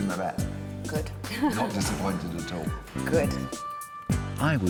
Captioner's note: laughs